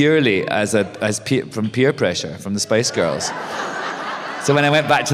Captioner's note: laughter